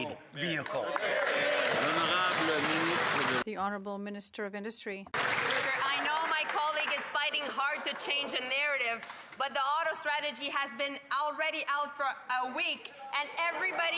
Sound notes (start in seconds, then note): 8.7 some Applause